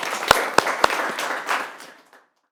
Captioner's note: audience clapping